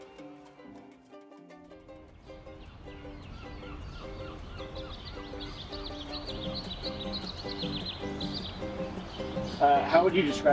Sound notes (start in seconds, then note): 1.6 birds chirps; 1.6 soft music